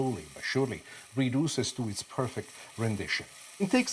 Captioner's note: sizzling